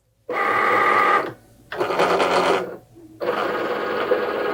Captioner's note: machine whirring